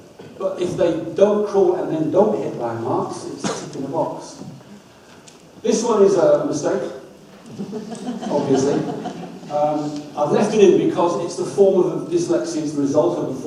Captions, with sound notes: but if they don't crawl and then don't hit landmarks it's a check in the box. This one is a mistake, obviously. (audience laughs) I've left it in because it's the form of dyslexia